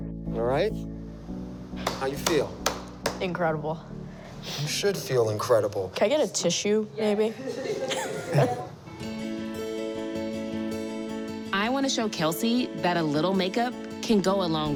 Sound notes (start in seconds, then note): 7.4 laughter